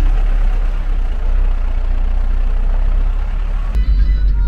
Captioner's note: diesel engine cruising